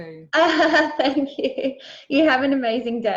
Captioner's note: laughs